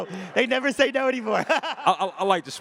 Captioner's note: laughs